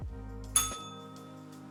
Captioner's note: bell rings